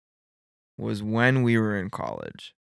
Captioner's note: none